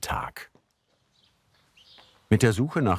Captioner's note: birds chirping